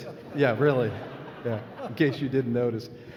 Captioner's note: laughing